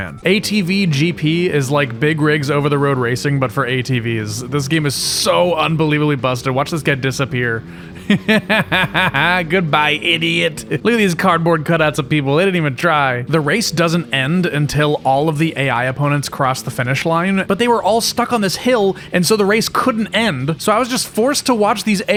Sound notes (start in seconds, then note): 7.7 evil laughter